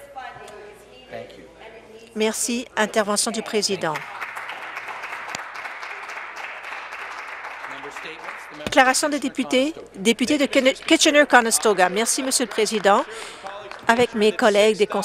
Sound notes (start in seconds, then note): 10.3 applause